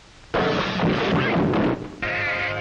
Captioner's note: crashing, thumping sound